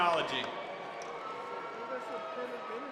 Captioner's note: cheers and applause